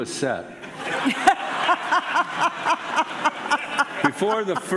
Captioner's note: laughing